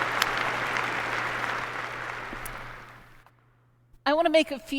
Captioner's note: applause